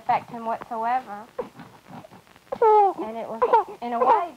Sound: baby fussing

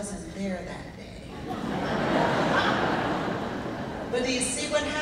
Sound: laughing

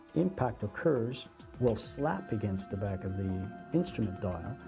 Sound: voiceover

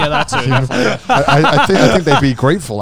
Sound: everyone laughs

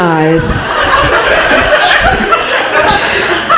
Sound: laughter

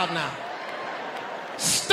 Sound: audience laughing

